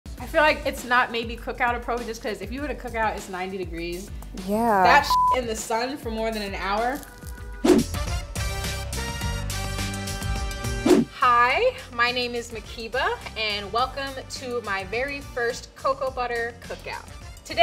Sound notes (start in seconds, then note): 4.9 beep; 7.4 upbeat music